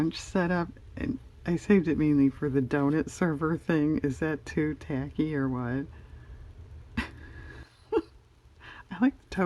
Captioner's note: laughs